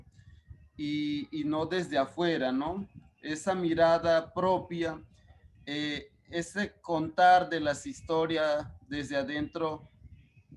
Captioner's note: speaking Spanish